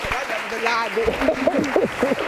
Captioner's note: laughing